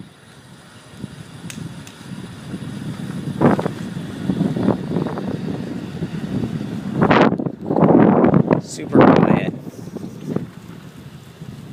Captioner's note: motor whirring